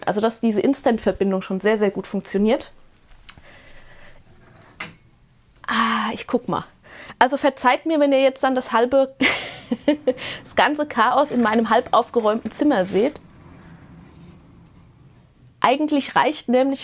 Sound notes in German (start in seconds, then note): 9.2 Gelächter